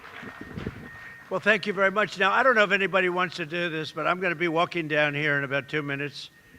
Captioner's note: applause